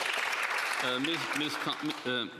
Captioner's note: applause